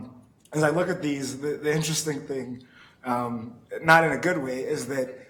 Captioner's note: chuckling